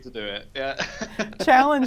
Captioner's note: laughs